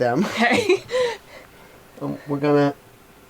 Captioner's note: laughs